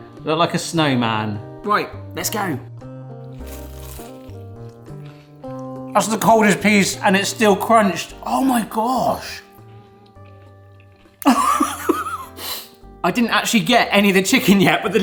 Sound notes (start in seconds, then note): 3.4 crunching; 11.2 laughing